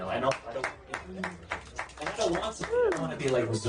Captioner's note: person clapping